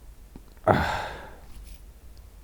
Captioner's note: exhales in desperation